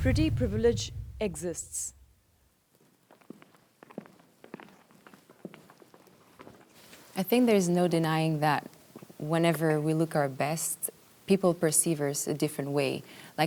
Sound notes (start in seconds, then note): 3.4 footsteps tapping